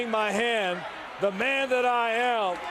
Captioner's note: crowd chatter